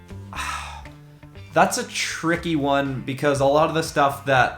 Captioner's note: sighs